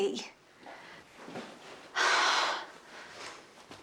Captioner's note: deep sigh